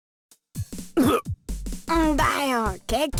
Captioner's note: burp